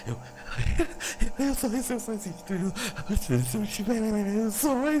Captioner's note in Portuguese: respiração ofegante; gaguejando